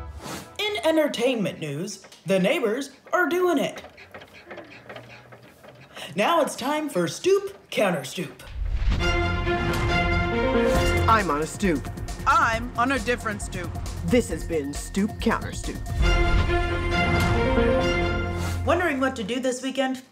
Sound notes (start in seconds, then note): 4.2 bed squeaking; 8.9 dramatic music